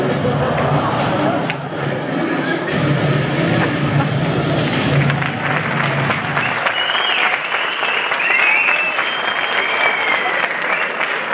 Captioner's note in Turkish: alkışlar, kahkahalar ve ıslıklar